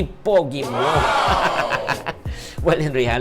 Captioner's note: laughs